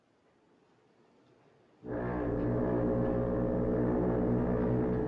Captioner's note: foghorn Blows